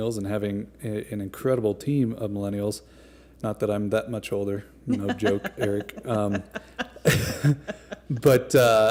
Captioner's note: laughter